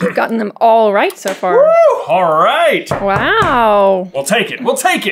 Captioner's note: knocks on table